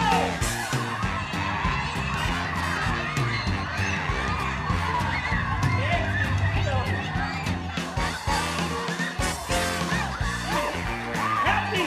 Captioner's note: cheering